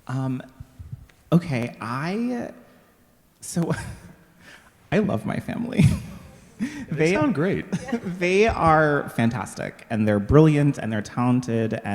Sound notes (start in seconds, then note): 5.9 laughing